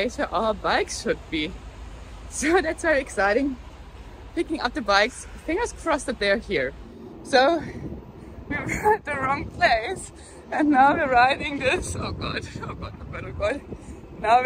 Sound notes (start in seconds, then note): none